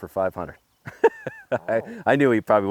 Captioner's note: laughing